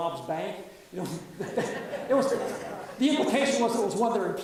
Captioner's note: audience laughs